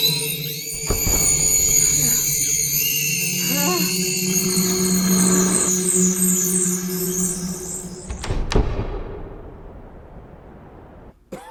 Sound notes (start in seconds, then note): 3.4 Lori groaning; 8.0 door closes